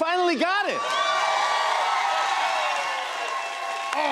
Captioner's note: cheers and applause